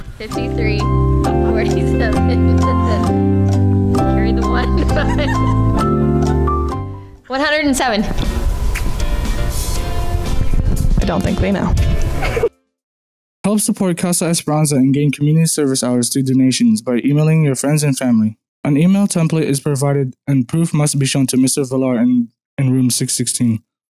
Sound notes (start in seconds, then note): 0.1 music under; 4.8 laughing; 11.0 music under; 12.2 laughing